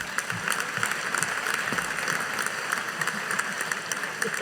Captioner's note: audience applauding